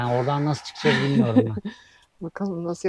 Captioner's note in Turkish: kahkaha